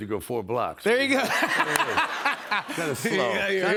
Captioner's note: laughs